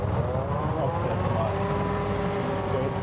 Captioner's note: loud engine noises